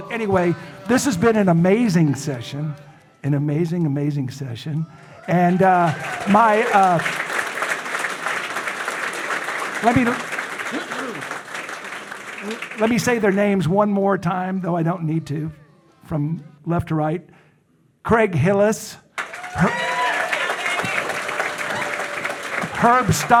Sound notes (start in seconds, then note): 5.2 audience applauding; 6.7 audience cheering; 19.1 audience applauding; 19.2 audience cheering